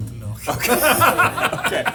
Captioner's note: both laughing